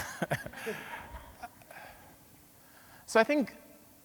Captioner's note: laughing